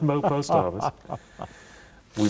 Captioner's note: laughter